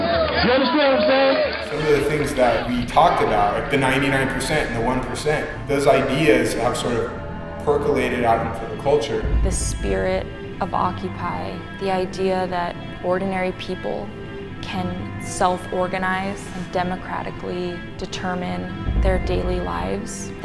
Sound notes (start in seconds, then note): 9.4 voiceover